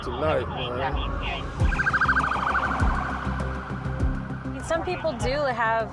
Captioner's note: sirens